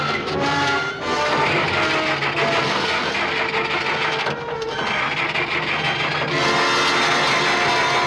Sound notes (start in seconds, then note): 0.0 engine cranking; 3.7 suspenseful music